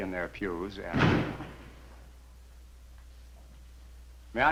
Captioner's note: door slamming